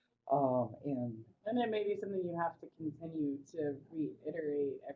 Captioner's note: voiceover